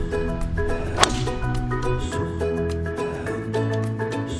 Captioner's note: thwack